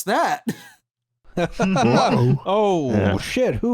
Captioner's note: laughter